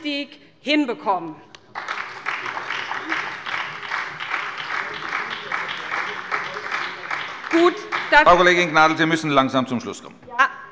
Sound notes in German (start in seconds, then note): 1.6 Beifall bei der SPD